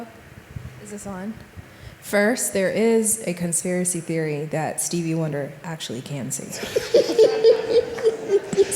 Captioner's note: laughing